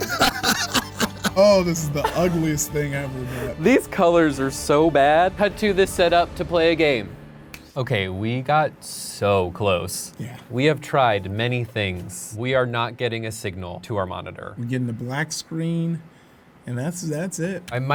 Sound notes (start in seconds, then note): 0.0 laughing; 7.4 snap